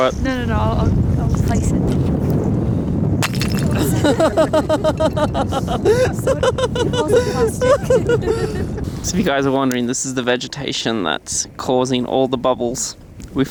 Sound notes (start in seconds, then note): 3.7 laughing